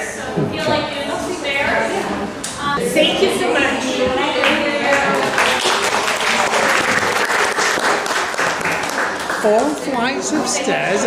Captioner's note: clapping